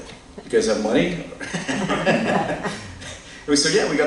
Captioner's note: laughter